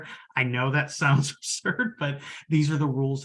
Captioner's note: chuckles